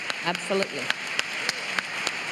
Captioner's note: applause